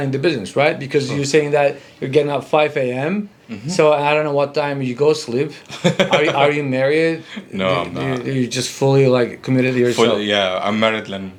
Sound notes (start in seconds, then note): 5.6 laughing